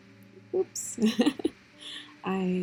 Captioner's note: little laughs